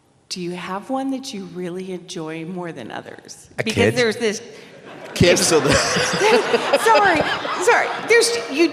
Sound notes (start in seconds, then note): 4.7 laughter